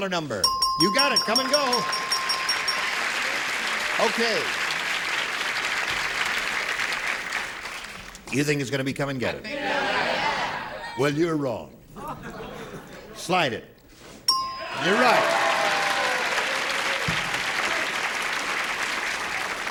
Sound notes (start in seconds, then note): 4.8 applause; 8.4 applause; 13.8 laughter